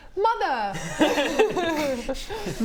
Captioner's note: laughs